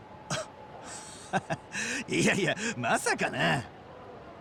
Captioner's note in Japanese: 笑い